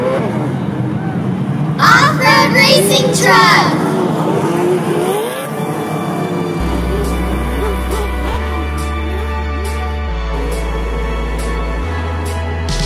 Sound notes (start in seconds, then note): 0.2 racing truck sounds; 7.2 racing truck sounds